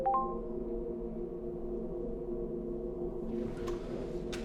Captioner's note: computer dings